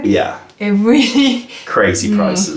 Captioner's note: laughter